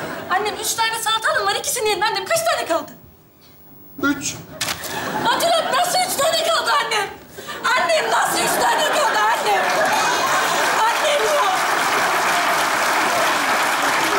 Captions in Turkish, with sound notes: -Annem üç tane salatalığın var. İkisini yedin. Annem kaç tane kaldı? -Üç. -Baturalp nasıl üç tane kaldı annem? Annem nasıl üç tane kaldı annem? (Alkış sesleri)